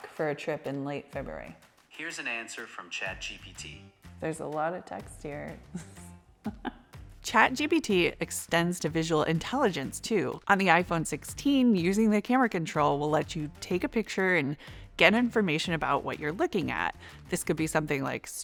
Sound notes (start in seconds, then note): 6.4 laughs